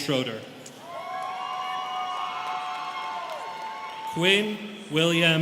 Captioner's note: students cheering